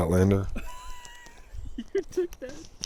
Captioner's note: laughing